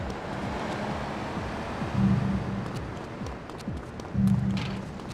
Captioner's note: sirens wailing